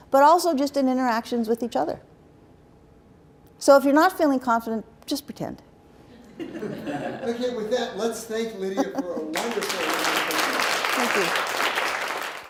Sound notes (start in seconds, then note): 9.3 applause